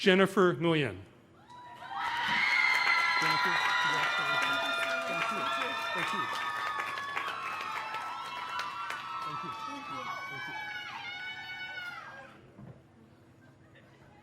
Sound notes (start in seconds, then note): 4.5 cheers and applause